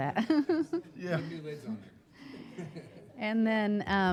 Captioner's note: laughing